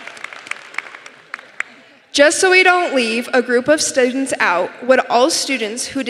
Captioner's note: applause